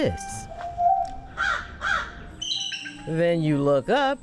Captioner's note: birds chirping